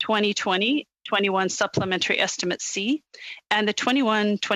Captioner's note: speaking French